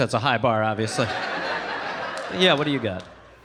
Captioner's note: audience laughing